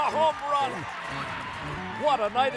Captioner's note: cheering